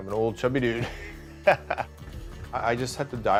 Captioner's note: laughter